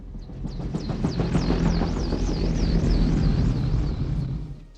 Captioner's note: helicopter approaches